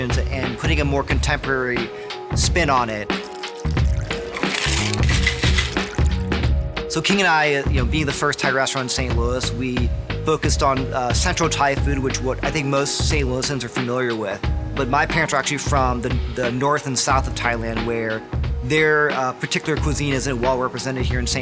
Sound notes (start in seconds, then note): 3.0 liquid sloshing; 4.7 ice clinking